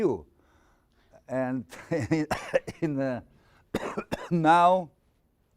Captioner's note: laughing, coughing